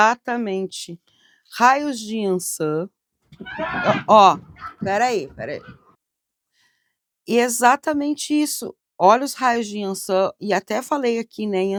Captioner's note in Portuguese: risadas